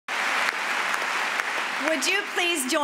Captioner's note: applause